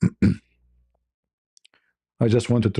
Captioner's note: berdehem